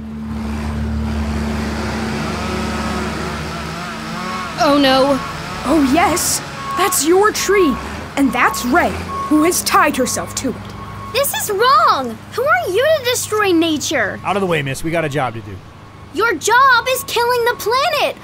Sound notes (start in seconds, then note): 2.0 chainsaw revving